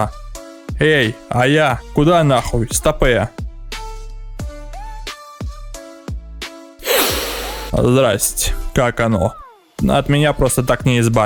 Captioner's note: sniffs